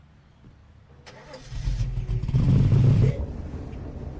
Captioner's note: car starts; rolling thunder; storm